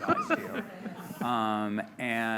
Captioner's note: laughter